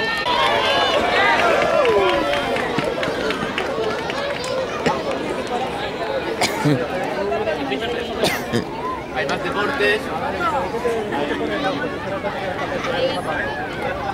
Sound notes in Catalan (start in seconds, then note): 0.0 La gent anima; 6.3 tossint